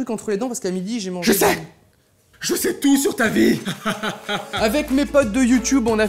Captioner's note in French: rire machiavélique